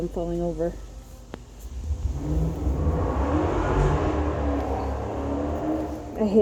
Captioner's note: loud engine revving